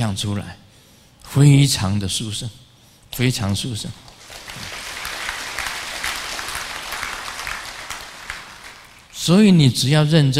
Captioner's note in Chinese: 眾鼓掌